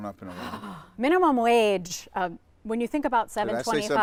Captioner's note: gasps